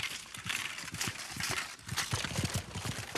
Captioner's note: horses gallop; armour rattling